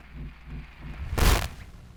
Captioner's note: static